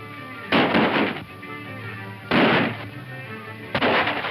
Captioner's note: gunshots